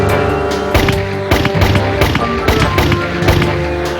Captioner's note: gun firing